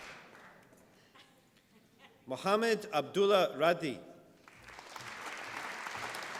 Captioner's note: applause